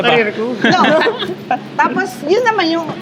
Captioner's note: laughs